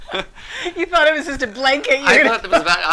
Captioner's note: laughs